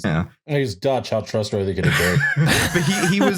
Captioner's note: laughter